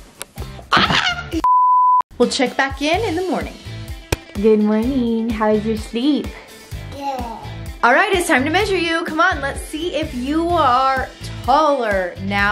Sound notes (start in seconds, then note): 0.8 screams